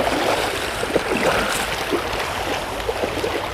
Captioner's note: splashing as they wade